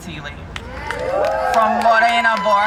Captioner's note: crowd cheering